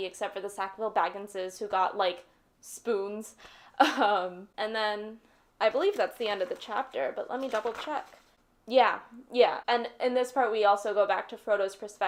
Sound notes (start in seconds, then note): 8.3 flipping pages